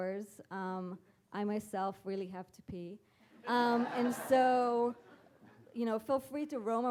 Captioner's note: audience laughing